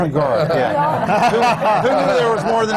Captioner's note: laughter